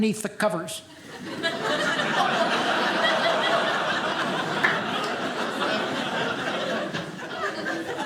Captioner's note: audience laughing